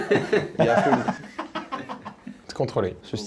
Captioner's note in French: rires